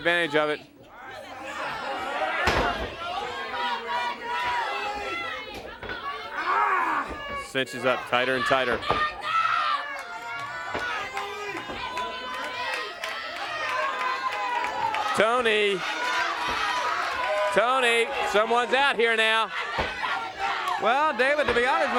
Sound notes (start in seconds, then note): 10.3 crowd chatter